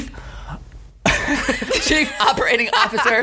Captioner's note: laughs